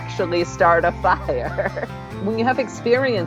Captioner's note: laughs